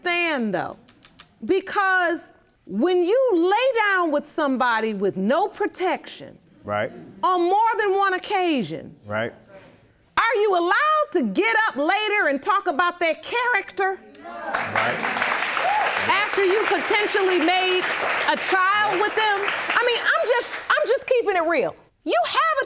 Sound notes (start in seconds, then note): 14.5 applause